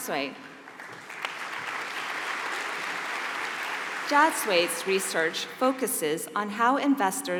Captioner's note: applause